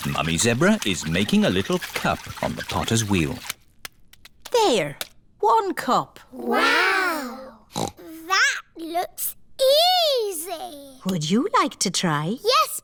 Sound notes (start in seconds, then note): 7.7 snorts